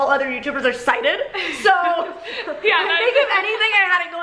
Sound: laughs

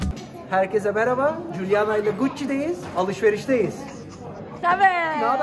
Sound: upbeat music; speaking in foreign language

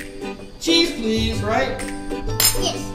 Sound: voiceover

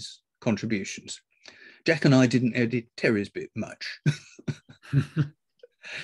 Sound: laughs

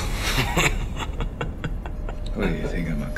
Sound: laughs

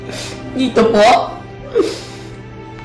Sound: crying

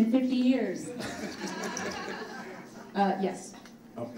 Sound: audience laughs

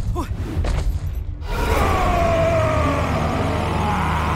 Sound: roars

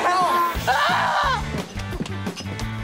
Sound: screams

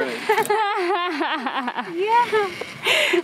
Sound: laughing

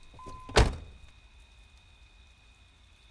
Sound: beeping stops

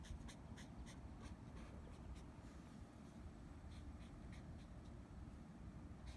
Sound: markers scritching and wind noise

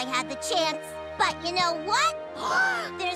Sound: gasping

